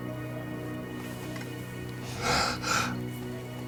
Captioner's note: Jim crying